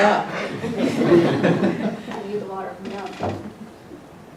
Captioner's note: laugh